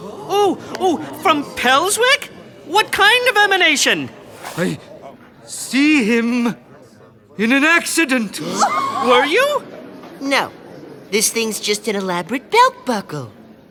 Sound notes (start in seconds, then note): 8.4 audience gasping